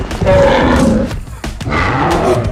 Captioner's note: bellows